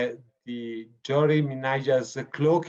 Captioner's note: speaking foreign language